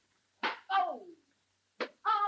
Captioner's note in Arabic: صفعة على اللوح